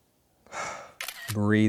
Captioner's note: exhales